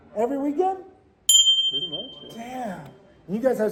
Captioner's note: bell dings